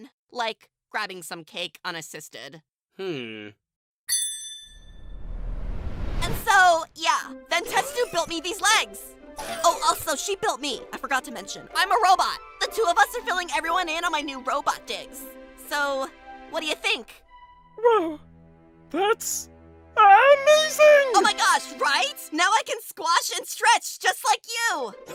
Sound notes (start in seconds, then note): 4.1 ding!